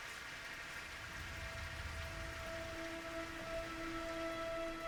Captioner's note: thunder rumbles